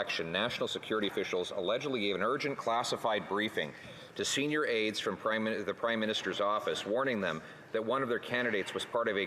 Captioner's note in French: voix de l'interprète